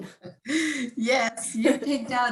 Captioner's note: laughing